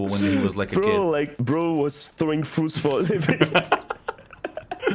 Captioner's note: laughing